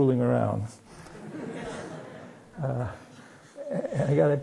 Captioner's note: laughter